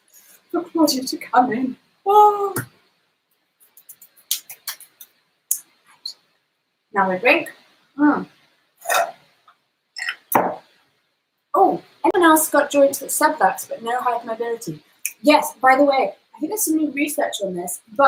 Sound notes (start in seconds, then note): 2.3 mimics wailing; 3.8 hands clapping; 8.8 slurping